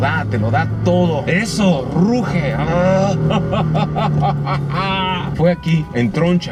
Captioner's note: laughter